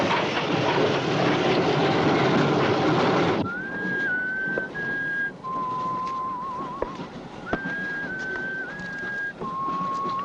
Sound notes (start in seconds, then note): 1.6 man whistles tunefully